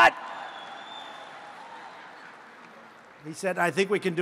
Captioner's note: applause